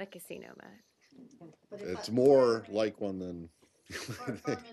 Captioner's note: laughter